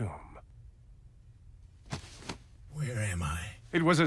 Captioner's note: scraping